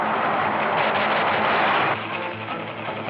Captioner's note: gunshots